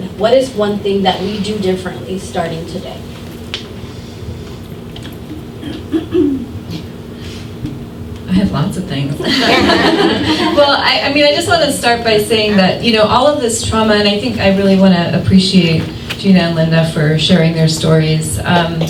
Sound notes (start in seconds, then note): 9.2 laughter